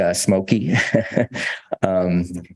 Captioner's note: laughs